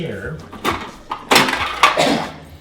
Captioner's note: fridge parts rattling; cough